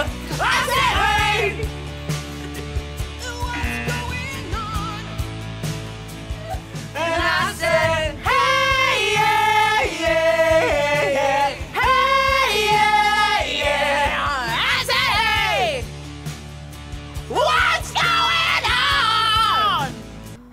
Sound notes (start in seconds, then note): 6.0 buzzer